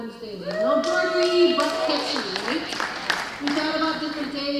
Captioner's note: drowned out by applause